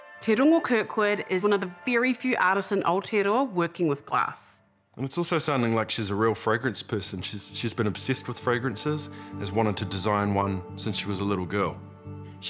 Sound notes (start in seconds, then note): none